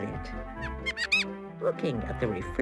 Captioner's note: mouse squeaking